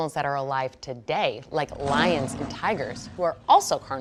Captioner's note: lion roaring